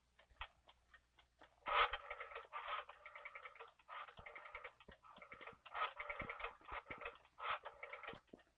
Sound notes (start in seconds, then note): 1.6 phone dial cranking